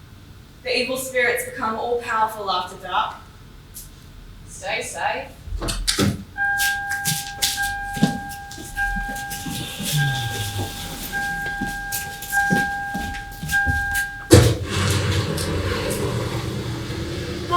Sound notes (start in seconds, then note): 5.6 car door opening; 14.2 car driving